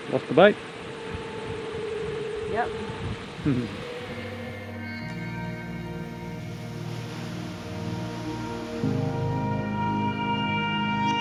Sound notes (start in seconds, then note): 3.4 laughs; 4.8 gentle music; 6.9 waves lapping